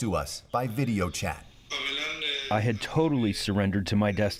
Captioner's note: through translator